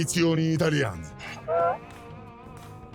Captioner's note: Donkey's bray